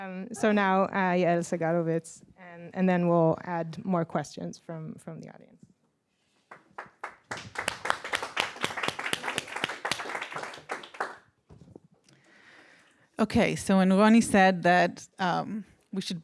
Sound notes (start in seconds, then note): 6.4 applause